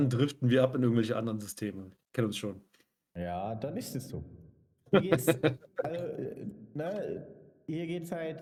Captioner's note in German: gelächter